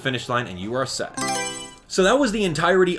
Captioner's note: Mario Selection Sound